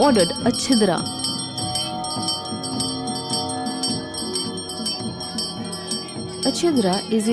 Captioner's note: bell jingling